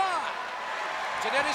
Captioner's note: crowd cheering